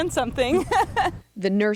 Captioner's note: laughs